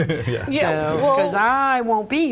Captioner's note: laughs